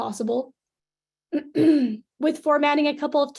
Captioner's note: clears throat